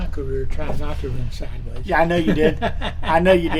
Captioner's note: Richard laughing